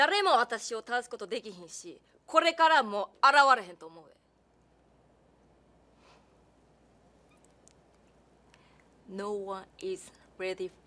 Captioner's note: speaking japanese